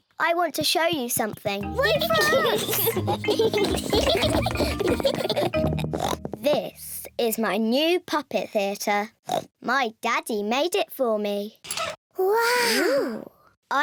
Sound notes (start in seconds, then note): 1.8 giggles; 5.4 oinks